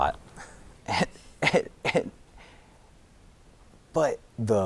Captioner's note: giggling